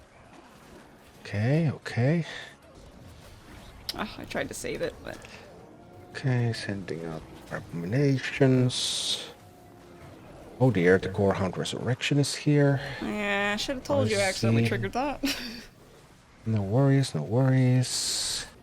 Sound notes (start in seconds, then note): 3.8 sighs; 15.2 chuckles